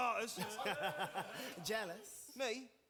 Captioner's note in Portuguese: laughs